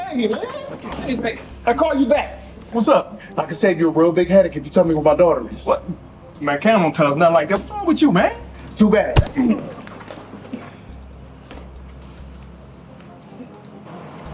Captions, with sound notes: I call you back, what's up? - I can save you a real big headache if you tell me where my daughter is. - Man, Kam won't tell us, it's not like that, what's wrong with you, man? - Too bad. (knee thuds) (suspenseful music)